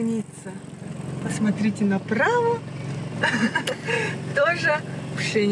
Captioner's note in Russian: смех